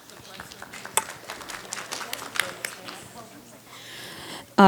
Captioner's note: audience clapping